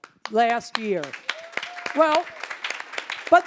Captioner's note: applause